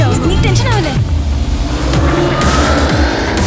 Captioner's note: in panic